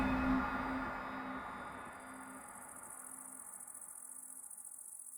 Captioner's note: forest din